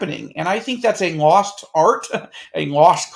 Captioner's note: chuckles